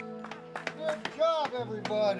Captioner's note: clapping